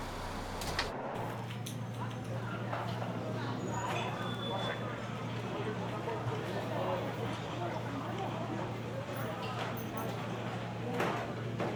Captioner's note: indistinct chatter